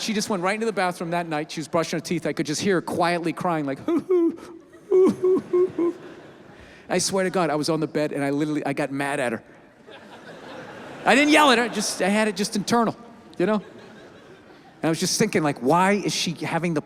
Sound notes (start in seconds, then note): 3.8 imitates crying; 9.8 audience laughs